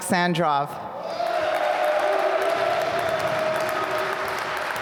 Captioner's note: applause